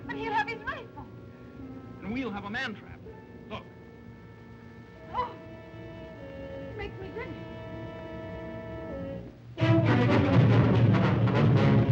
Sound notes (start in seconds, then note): 5.1 Eve gasps; 9.5 suspenseful music